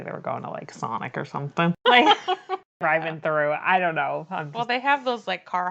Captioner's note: laughs